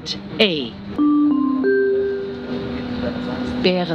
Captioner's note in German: Gong